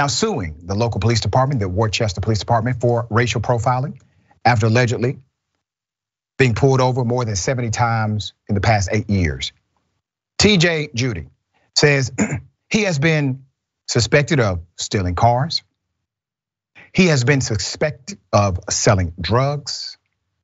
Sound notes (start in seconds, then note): 12.1 cough